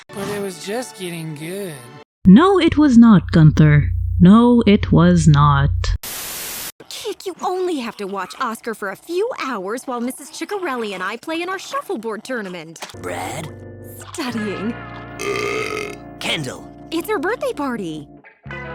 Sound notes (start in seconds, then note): 15.1 burps